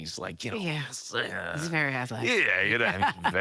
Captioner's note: grunting; chuckles